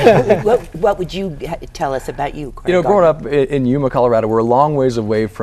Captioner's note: laughter